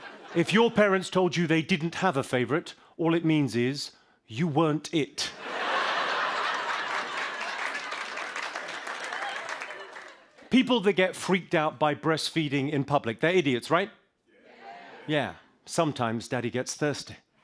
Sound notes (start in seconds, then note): 0.0 laughter; 5.3 laughter